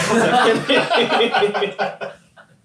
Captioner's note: all laughing